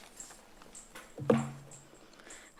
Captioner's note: rustles